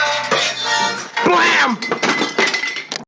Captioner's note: clattering